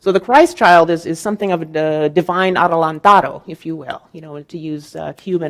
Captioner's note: speaking in Spanish